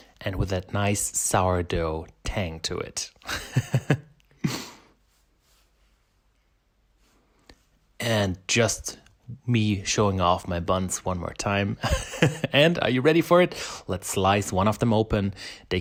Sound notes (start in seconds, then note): 3.3 laughs; 11.9 laughs